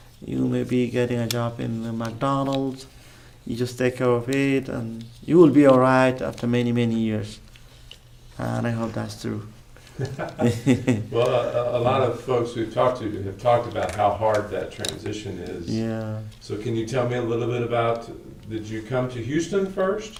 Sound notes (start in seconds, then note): 9.9 laughs